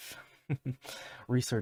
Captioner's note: chuckle